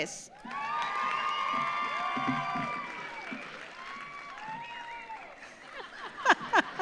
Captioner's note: audience cheers; audience applauds; audience laughs